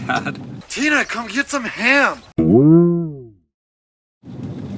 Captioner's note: boing